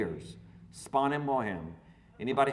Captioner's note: speaking foreign language